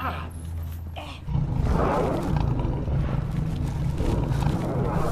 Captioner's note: growling